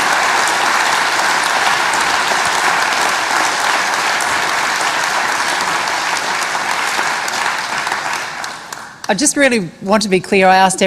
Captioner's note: applause